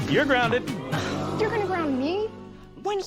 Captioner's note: audience: Oooooo!